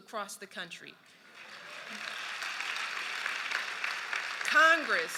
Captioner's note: applause